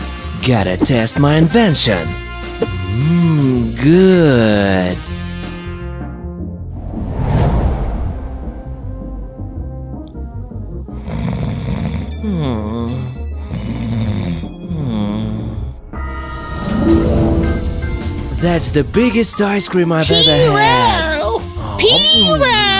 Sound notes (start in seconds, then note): 10.9 snoring